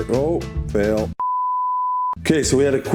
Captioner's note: beeps